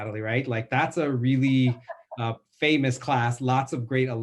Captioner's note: laughing